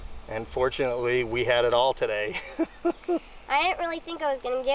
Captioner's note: laughs